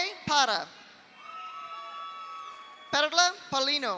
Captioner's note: audience cheers; audience applauds